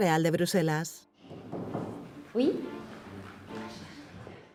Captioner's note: knock, knock